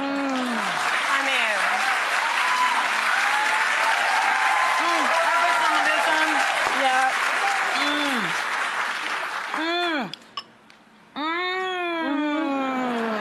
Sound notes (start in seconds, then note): 2.4 loud clapping and cheering